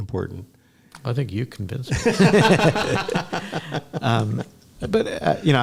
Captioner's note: laughter